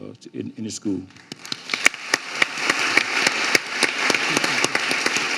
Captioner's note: audience applauding